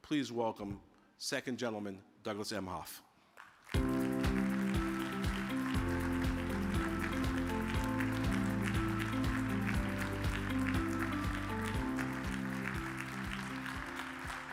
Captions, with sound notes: Please welcome Second Gentleman Douglas Emhoff. (audience applauding) (upbeat music)